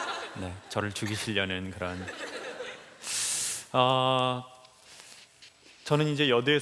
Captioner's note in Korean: 웃음